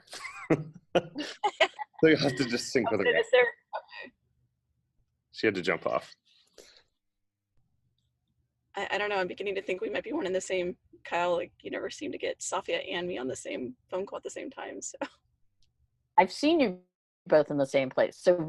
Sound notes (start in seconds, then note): 0.0 laughter; 15.5 chuckles